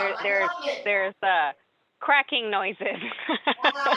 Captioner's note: laughter